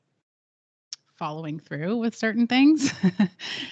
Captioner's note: giggles